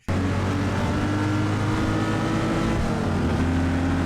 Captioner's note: engine roaring